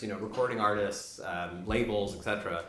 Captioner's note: none